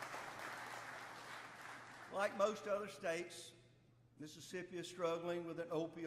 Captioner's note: applause